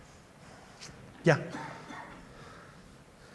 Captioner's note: speaker is off microphone